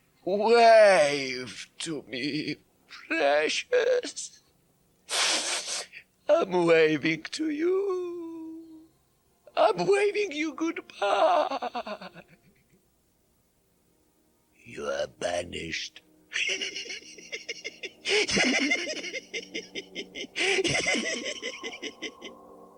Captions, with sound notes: Wave to me, precious. *sniffles* I'm waving to you. I'm waving you good-bye! You are banished. *Gatekeeper continues chuckling constantly*